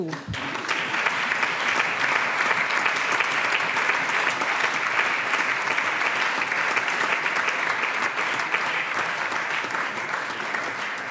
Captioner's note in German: Allgemeiner Beifall